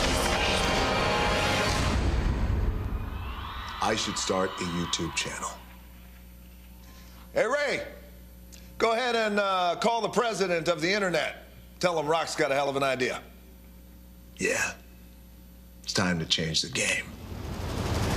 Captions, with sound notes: [APPLAUSE] >> I SHOULD START A YouTube CHANNEL. >> ERIC, GO AHEAD AND CALL THE PRESIDENT OF THE INTERNET AND TELL THEM ROCK HAS AN IDEA.